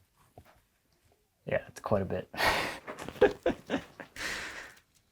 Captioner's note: laughs